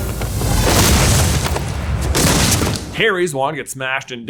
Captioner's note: body crashing